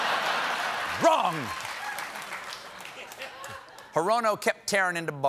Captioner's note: laughter